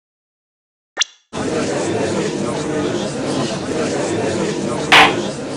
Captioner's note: gallery chattering; gavel slams!